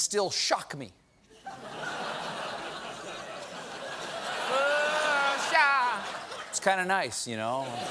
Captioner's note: laughter